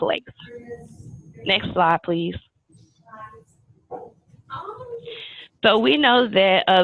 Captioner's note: background chatter